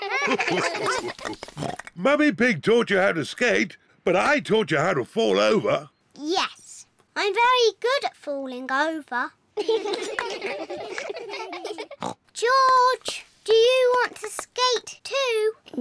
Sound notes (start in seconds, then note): 9.6 all giggle; 12.2 snorts